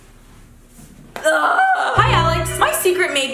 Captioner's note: groans